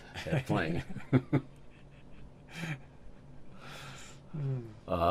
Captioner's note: laughs